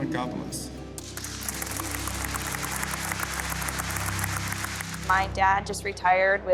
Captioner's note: audience applauding